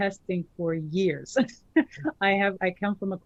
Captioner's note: chuckles